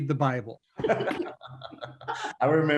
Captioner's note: all laughing